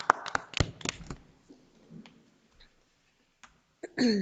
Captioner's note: board applauding